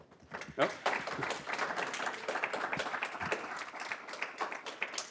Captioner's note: applause